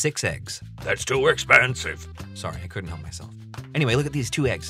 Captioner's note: a la Belle from Beauty & The Beast